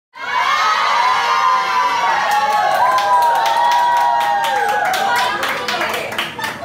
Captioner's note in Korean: 환호성